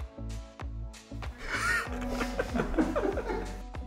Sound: both Laughing

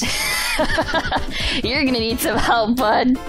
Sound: laughing; laughs

